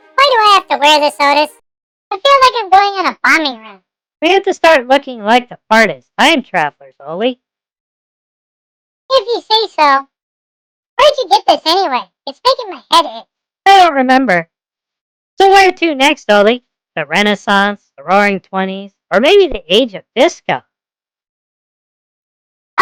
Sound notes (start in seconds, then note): 14.0 sarcastically